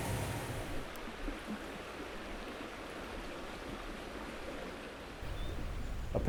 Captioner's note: water running